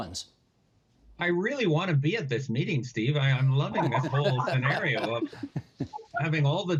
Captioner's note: laughter